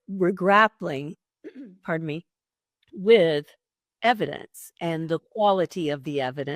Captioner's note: clears throat